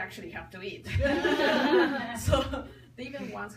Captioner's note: people laugh